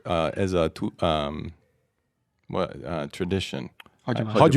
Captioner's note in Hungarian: idegen nyelven beszélve